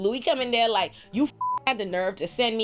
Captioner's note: beep